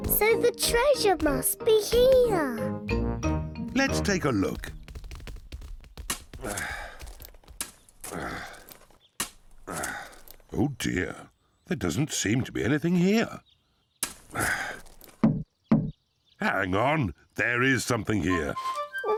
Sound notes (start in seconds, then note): 6.0 grunting; 15.3 hollow thud